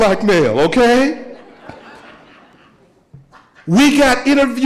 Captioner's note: audience laughing